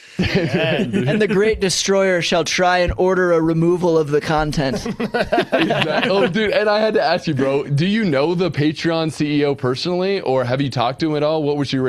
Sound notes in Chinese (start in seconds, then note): 4.6 笑声